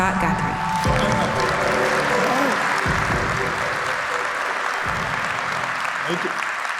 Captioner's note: applause